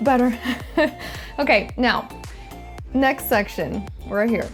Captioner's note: laughs